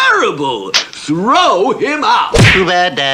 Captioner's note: smack!; splat!